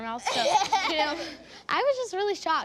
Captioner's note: laughs